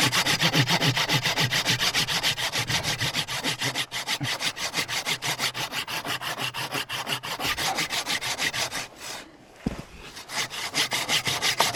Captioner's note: sawing sound